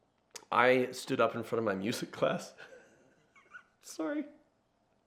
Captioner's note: laughs